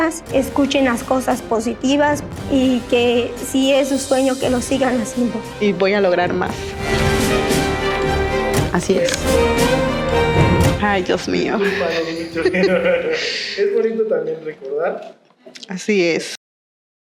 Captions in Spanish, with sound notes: Escuchen las cosas positivas y que si es un sueño que lo sigan haciendo Y voy a lograr más Así es -¡Ay, Dios mío! -Discúlpanos mucho [ríen] -Es bonito también recordar -Así es